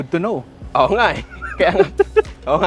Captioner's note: laughs